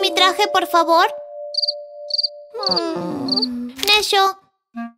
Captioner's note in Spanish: Sonidos de grillos